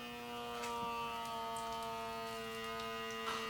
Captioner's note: small buzzing noise